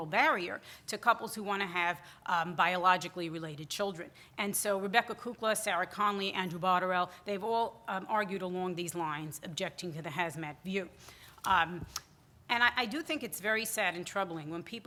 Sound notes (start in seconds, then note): none